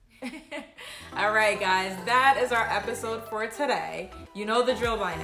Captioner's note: laughs